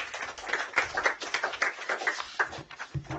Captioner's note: applause